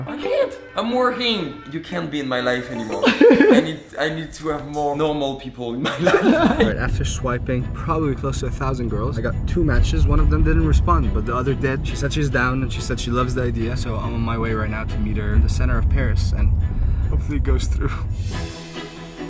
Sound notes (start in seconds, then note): 2.8 laughing in the background